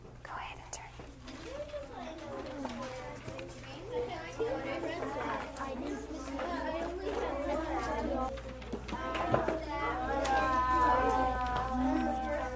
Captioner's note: student Discussing